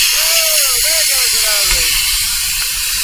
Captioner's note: scuba Cylinder releases air loudly